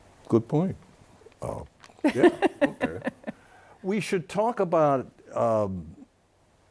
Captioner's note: laughs